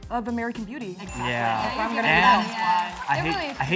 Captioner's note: all mumble in agreement